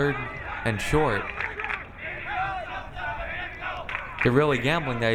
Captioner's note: crowd